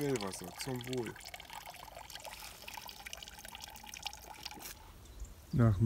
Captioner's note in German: Wasserplätschern aus dem Brunnenrohr